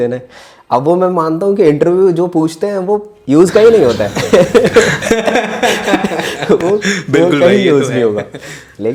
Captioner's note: laughs